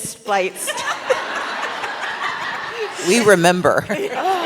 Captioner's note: laughter